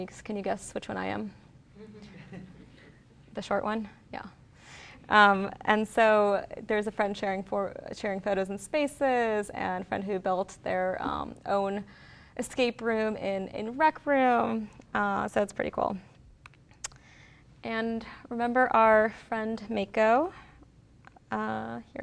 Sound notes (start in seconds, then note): 1.8 laughter